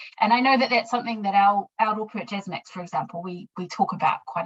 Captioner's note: speaking in foreign language